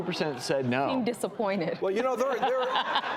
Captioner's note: laughs